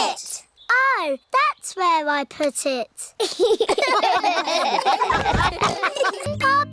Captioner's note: all laugh